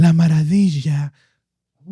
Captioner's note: speaking Spanish